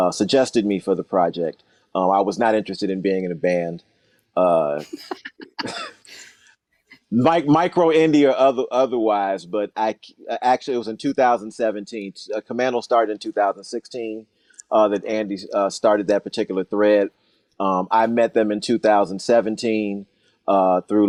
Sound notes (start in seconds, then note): 4.8 laughing